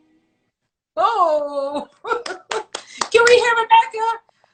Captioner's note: claps